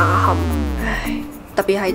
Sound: sigh

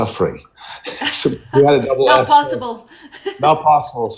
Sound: laughs

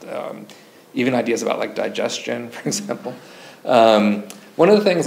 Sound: chuckles

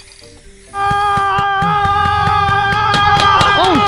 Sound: ooooowww

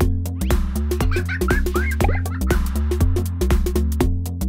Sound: laughter

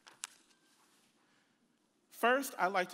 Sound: pages rustling

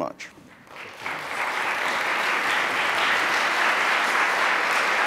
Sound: audience applauding

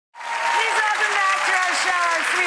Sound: audience cheers

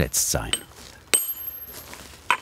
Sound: chiselling

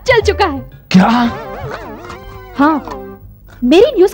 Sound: slurps

